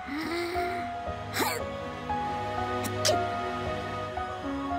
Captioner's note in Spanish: gruñe y luego estornuda